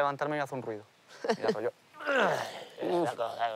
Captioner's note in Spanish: gruñe